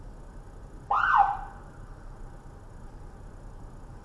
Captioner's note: officer chirps siren